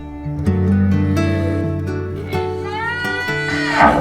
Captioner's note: cows moo